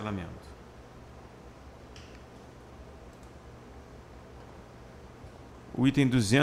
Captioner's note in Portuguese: Silêncio